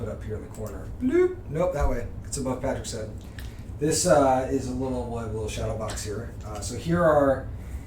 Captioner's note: bloop